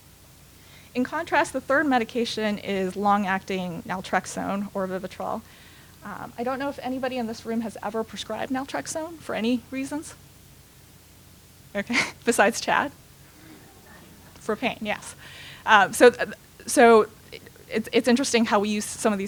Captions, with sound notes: In contrast, the third medication is long-acting Naltrexone, or Vivitrol. I don't know if anybody in this room has ever prescribe Naltrexone for any reasons. Okay, besides Chad -- [laughter] for pain, yes. So it's interesting how we use some